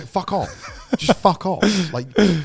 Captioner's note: laughs